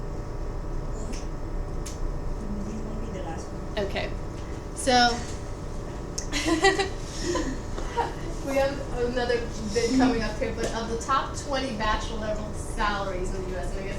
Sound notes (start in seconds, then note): 6.3 laughs